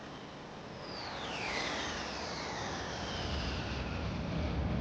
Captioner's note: jet engines zooming